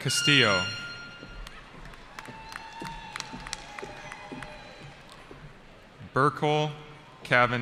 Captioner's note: cheering